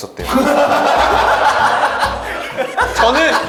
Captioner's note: ah ha ha ha ha